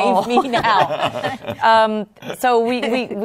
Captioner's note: laughter